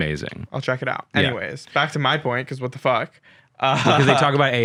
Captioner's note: laughs